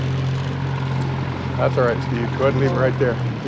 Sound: boat engine running

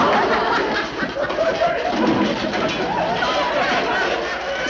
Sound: beds clink; audience laughs

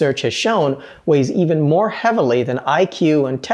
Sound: none

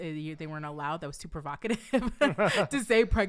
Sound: laughing

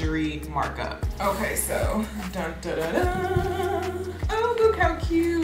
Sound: mimics trumpet

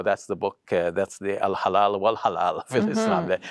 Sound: speaks Arabic

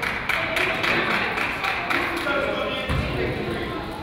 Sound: crowd applauds

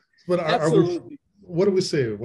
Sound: laughs

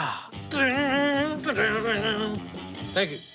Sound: imitating guitar

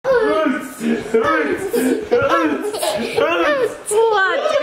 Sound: kids playing

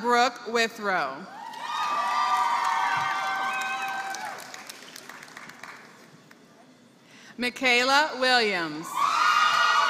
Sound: applause; applause

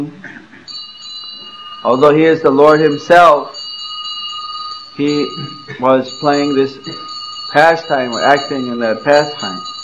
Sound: bell rings

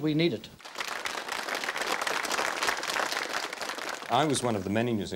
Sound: applause

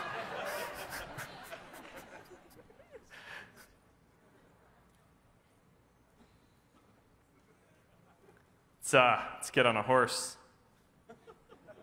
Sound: laughter

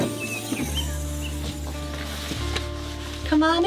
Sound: birds chirping; campervan roof buzzing

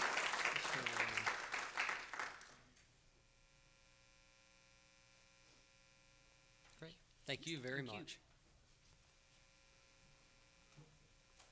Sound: applause

